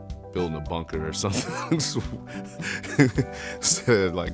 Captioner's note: laughs